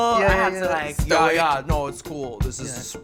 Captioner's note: deep voice